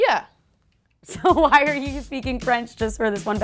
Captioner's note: laughs